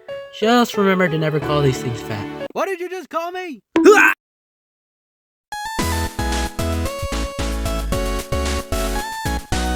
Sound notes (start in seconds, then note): 3.8 bonk!